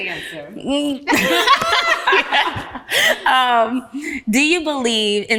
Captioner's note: ladies laughing